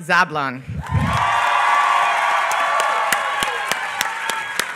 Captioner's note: applause